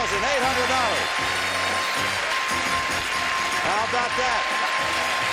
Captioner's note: chiming, applause